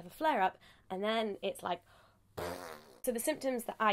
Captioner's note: blows raspberry